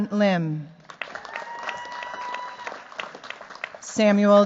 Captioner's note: cheers, applause